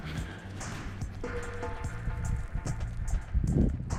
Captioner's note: wind blowing